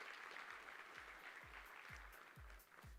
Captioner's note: applause